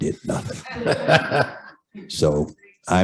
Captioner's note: laughter